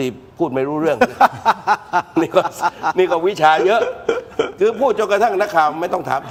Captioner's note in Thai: เสียงหัวเราะ